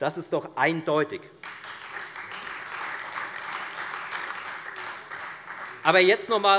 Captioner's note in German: Beifall Freie Demokraten und vereinzelt AfD